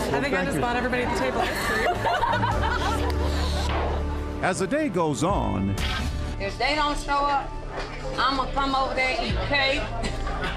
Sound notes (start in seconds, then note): 1.1 crowd laughs; 2.1 balloon pops; 9.9 laughs